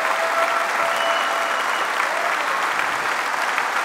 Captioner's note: applause